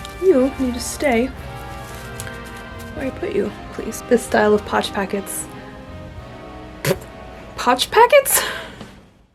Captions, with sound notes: You need to stay where I put you, please. this style of potch packets - *pthb* POTCH PACKETS!? *laughs*